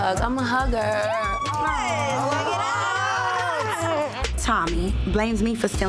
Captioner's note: overlapping chattering